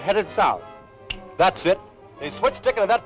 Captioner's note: snaps